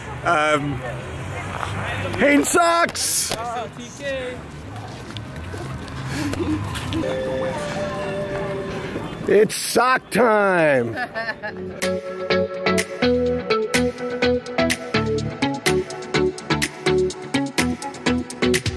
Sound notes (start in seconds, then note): 10.8 laughs; 11.6 upbeat music